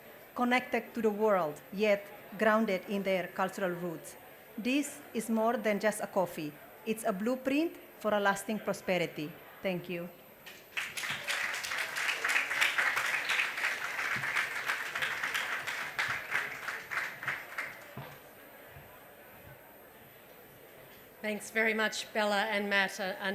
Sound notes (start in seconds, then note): 10.4 applause